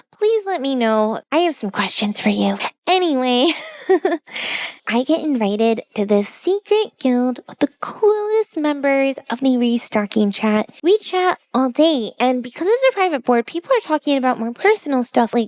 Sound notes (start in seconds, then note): 3.4 laughs